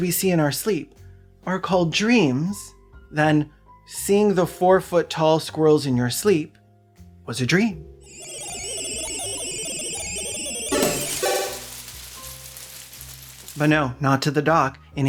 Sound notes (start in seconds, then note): 10.9 congratulatory beeps and whirring